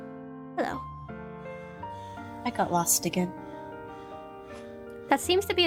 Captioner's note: crows caw